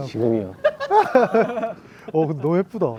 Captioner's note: hyungs burst into laughter at the Maknae's cute antics